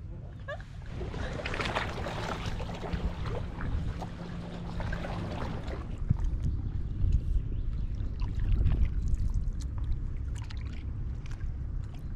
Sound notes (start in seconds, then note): 7.6 water lapping